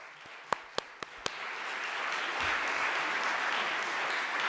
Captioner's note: audience applause